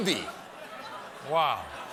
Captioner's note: laughter